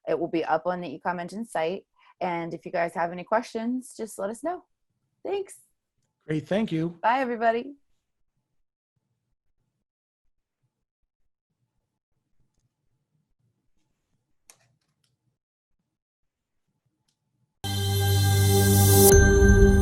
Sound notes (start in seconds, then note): 14.5 mouse clicks; 17.9 soft beaming; 19.0 bells chiming; 19.4 bell rings; 19.4 soft twinkling